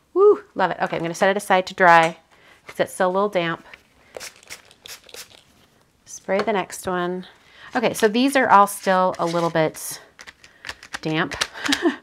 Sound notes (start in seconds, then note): 4.1 bottle spraying